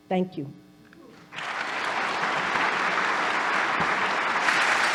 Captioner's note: audience applauding